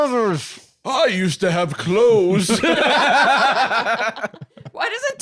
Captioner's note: all laughing